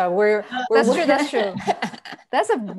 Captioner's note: laughs